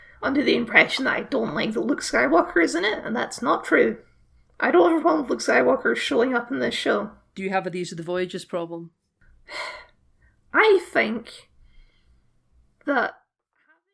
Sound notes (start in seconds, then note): 9.5 sigh